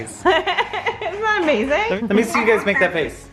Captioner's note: laughs